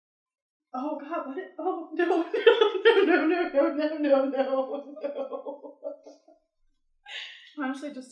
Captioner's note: laughs